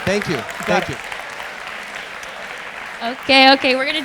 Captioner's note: audience applause